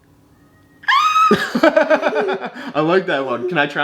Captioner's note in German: macht alberne Geräusche